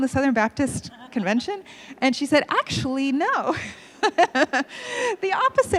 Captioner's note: laughs